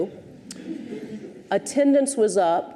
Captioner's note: audience chuckles